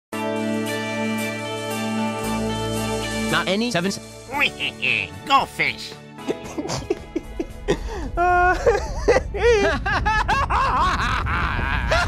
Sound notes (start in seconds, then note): 6.2 Ben Shapiro laughing; 9.5 Ben Shapiro laughing manically